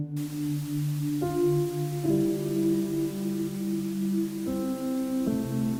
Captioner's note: somber music; static buzzing